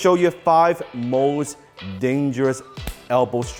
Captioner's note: smack